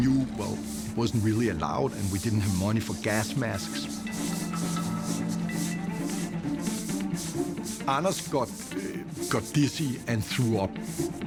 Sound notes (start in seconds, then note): 3.8 scrubbing